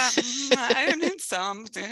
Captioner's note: laughing